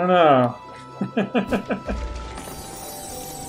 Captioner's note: laughs